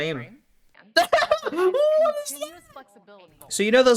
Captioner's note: laughs in ring stand